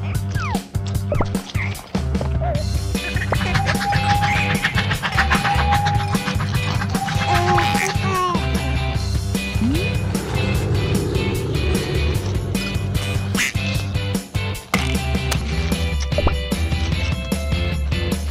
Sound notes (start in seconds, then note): 3.3 train engine sounds; 9.4 plane engine sounds